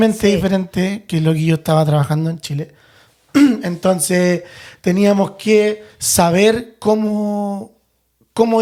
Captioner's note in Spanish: carraspeo